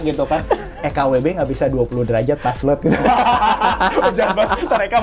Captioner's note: laughs